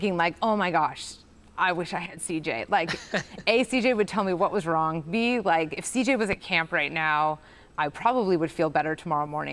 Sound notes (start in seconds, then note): 2.8 chuckles